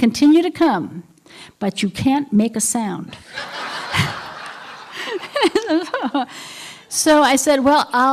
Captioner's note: laughter